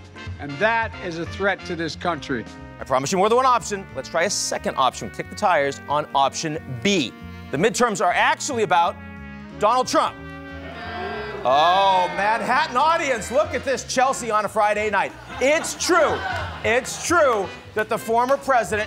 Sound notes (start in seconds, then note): 10.5 audience groans